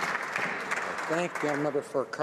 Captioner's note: some Applause